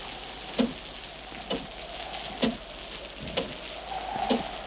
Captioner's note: clock ticks